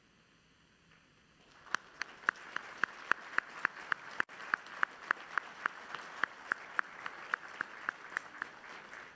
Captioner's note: applause